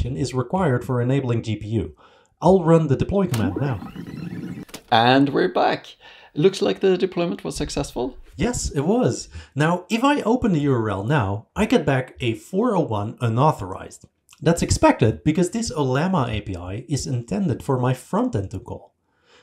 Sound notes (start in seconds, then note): 3.3 fast forward noises